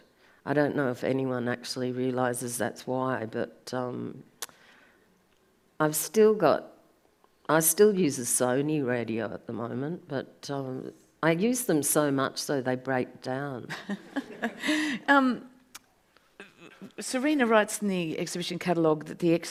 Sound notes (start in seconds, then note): 13.8 audience laughs